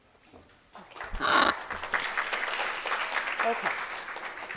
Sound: audience applauds

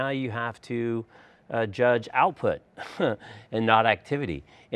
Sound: chuckles

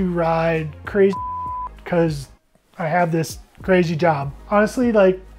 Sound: beep

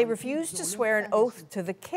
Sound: speaking French

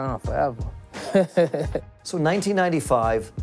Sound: laughs

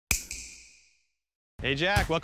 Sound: snap

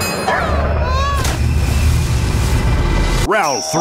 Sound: dinging sound; splash sound

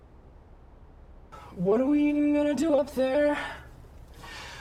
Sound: in robotic voice

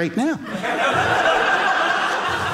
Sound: audience laughing

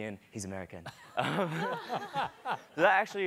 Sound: laughing

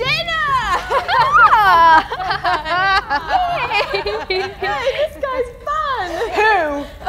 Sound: laughter

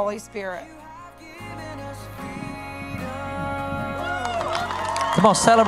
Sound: music & applause

